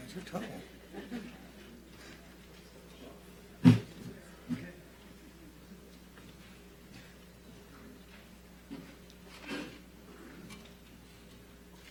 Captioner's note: laughter